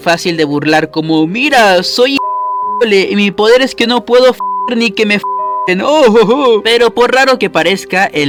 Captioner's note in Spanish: pitido